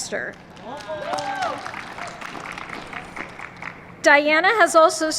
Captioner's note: applause